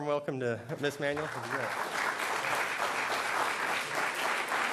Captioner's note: applause